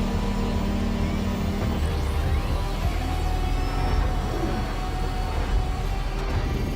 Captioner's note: machinery rumbling